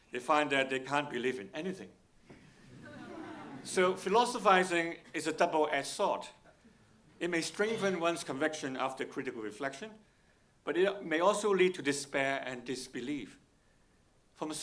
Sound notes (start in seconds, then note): 2.6 audience laughing